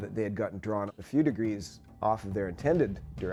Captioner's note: voiceover